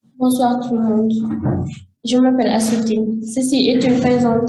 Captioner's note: speaking in French